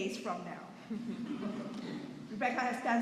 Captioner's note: chuckling